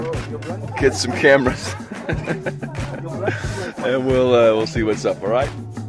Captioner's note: laughing